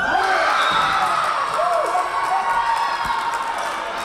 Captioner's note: Tigers cheering